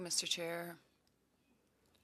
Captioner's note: speaking French